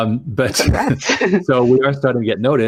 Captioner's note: laughs; giggles